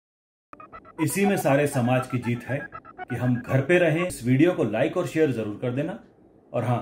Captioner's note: television sound